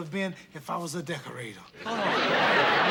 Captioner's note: laughter